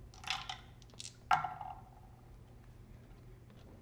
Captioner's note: dice clatter